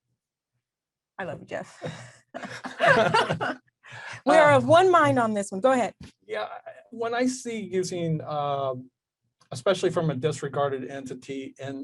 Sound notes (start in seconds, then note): 1.8 both laugh